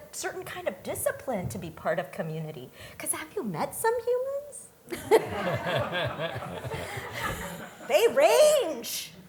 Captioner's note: laughter